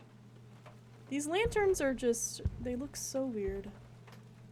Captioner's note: heavy Footsteps